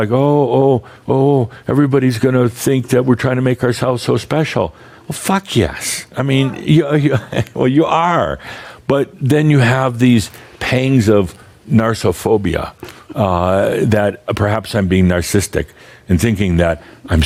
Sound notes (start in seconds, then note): 6.4 chuckles